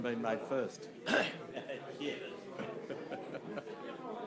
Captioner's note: laughing